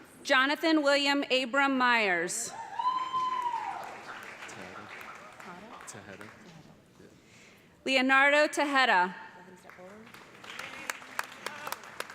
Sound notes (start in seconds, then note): 2.6 cheers and applause; 9.6 applause